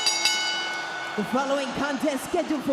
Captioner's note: bell ringing